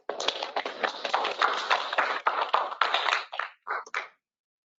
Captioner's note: applause